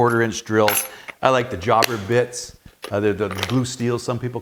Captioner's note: plastic snapping